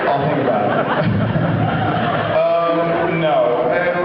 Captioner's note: laughs